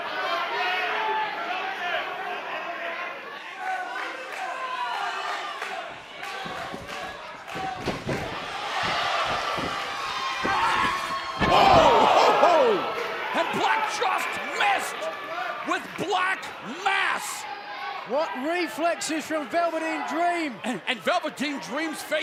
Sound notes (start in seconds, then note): 0.1 cheers and applause; 7.5 fans chanting